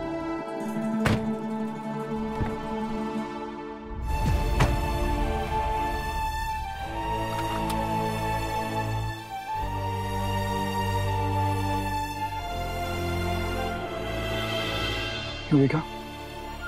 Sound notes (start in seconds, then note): 1.0 car door closes; 4.4 car door closes; 9.4 emotional music playing